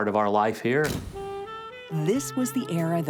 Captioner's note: camera shutter clicks